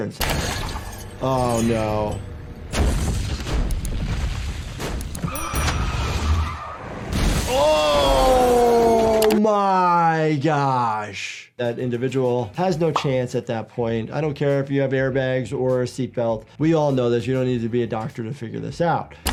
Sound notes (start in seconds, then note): 0.3 log crashes; 5.6 log crashes; 5.7 tires screech; 7.0 windscreen smashes